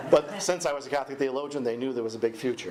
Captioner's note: audience laughing